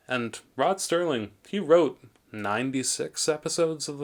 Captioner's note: none